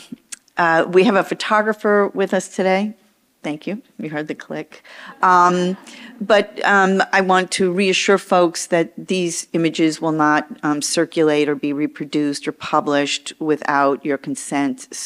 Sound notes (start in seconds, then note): 5.4 audience chuckles